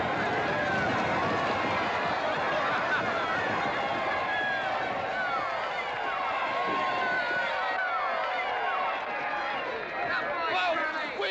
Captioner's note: crowd laughing; crowd cheering